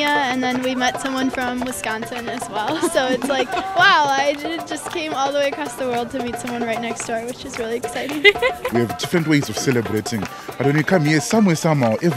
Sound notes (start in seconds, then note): 2.6 laughter; 8.1 laughter